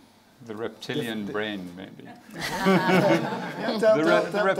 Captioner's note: laughs